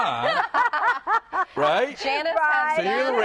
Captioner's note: laughter